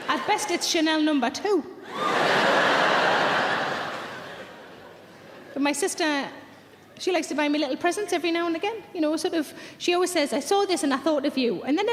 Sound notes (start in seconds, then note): 1.8 audience laughs